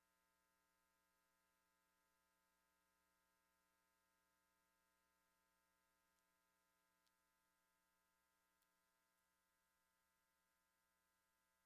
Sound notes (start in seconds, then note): none